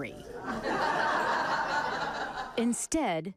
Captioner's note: group laughing